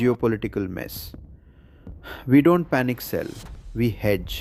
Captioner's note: exhales